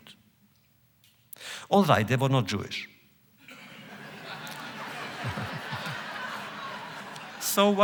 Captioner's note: laughter